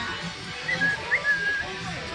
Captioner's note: whistling